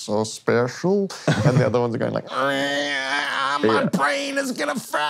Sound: squeals

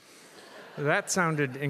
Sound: audience laughs

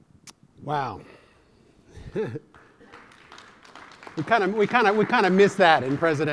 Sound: applause

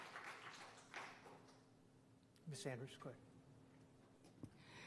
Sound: applause

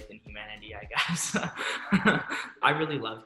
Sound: laughs

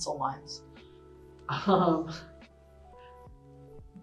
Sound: laughs

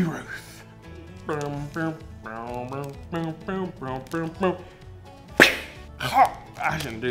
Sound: imitating baseball stadium music

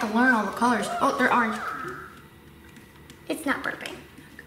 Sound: Hatchimal purrs

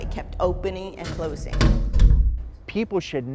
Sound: door opening

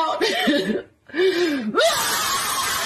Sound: calmly inhales

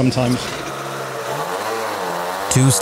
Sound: engine revving

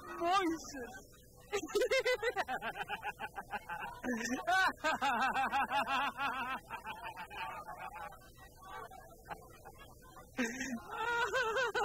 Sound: laughs

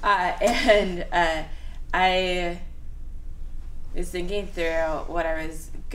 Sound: laughs

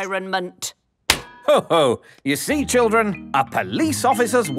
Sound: slaps

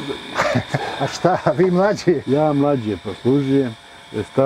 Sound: laugh

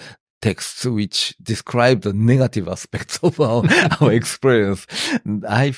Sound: laughs

